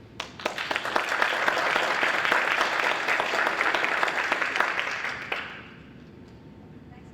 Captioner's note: applause